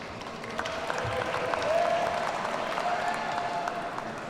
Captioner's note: audience applauding